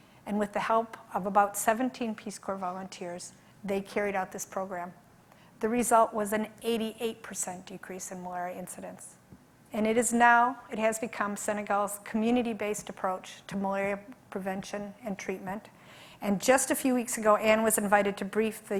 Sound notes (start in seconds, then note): none